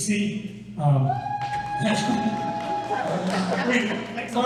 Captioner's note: cheers